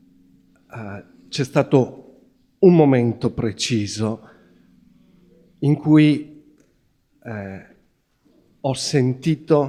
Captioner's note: questioner speaking Italian